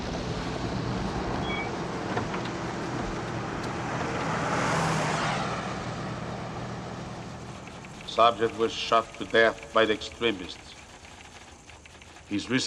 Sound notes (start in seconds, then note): 7.2 typewriter keys clacking